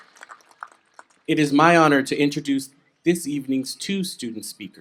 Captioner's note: applause